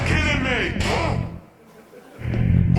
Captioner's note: grunt